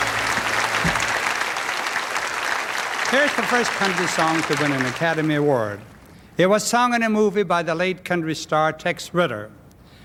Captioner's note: applause